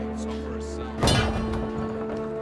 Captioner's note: clatter